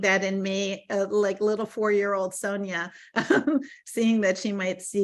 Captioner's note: laughing